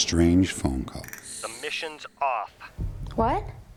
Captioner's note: on phone